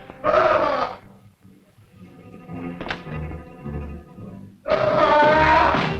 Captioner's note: Andy screaming; tense music